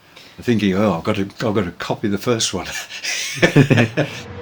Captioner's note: laughs